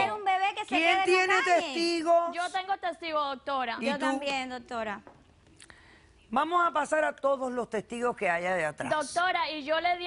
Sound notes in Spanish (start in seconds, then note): none